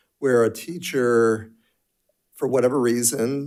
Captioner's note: none